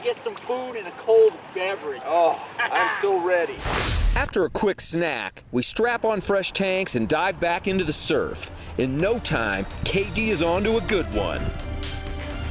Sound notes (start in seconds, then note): 3.6 swooshing